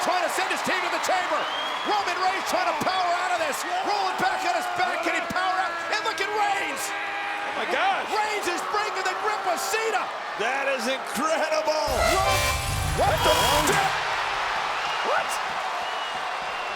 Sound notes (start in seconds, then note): 11.9 eerie distorted music plays; 14.3 crowd cheers